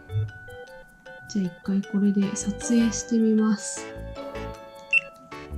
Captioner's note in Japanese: ボタン音